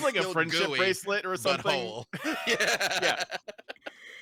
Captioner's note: laughs